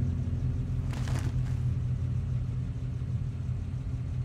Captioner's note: trash crinkling